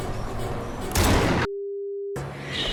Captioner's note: gun fires